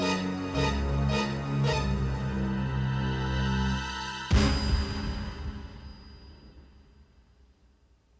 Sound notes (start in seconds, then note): 4.3 elevator dings